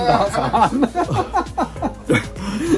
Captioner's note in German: Gelächter